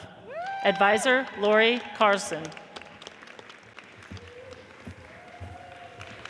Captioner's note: audience cheers and applauds